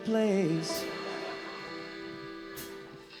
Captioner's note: laughter